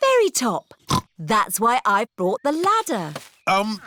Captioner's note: snorts